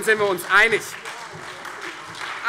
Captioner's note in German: Beifall Freie Demokraten und SPD